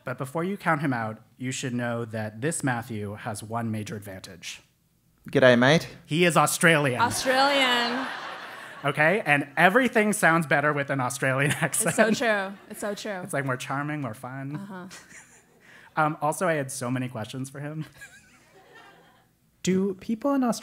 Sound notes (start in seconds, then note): 7.0 laugh; 14.9 laugh; 18.0 laugh